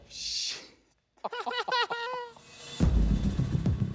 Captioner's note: laughter